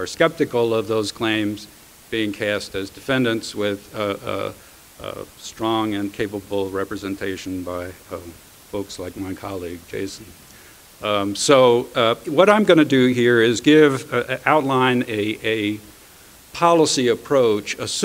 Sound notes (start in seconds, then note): none